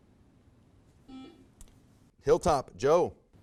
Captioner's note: buzzer buzzes